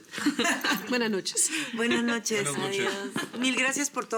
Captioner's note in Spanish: Risas